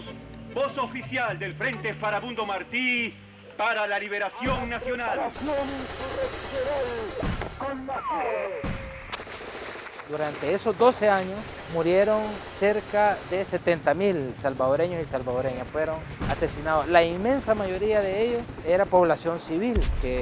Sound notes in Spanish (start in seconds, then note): 0.0 radio; 5.3 radio